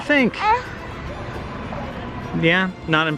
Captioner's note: baby noises